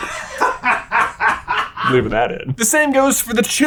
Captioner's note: crew booming laughing